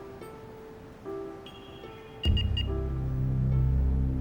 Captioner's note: beeping